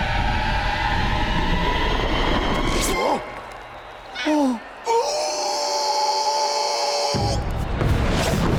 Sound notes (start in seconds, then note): 2.6 groaning; 4.0 screaming